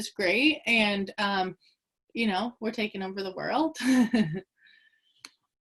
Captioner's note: chuckles